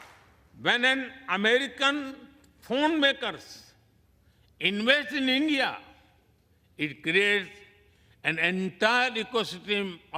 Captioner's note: applause